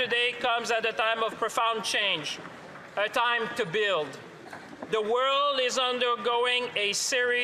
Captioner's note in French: voix de l'interprète